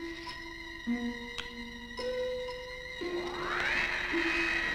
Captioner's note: door whirring